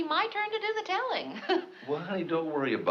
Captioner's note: chuckles